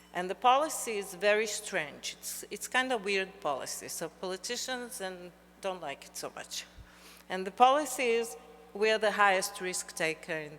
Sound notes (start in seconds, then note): none